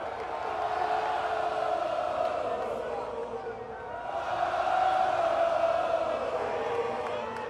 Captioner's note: cheering; crowd chanting